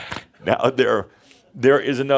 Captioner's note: Adamus laughs